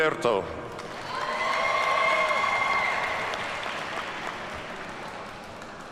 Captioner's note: audience cheers and applauds